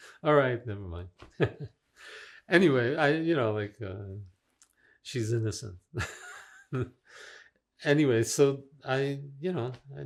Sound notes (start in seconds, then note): 6.0 laughing